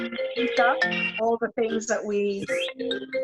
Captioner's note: cellphone ringing